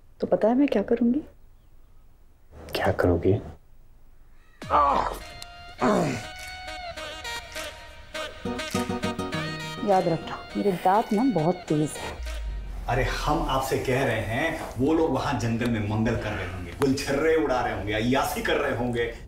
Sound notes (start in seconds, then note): 5.7 groans; 5.8 grunts